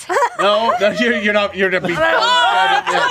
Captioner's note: laughing